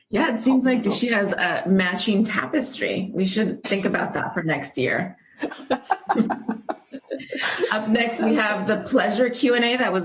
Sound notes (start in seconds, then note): 5.4 laughter